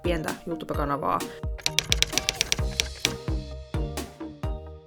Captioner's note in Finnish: kirjoituskoneen naputusta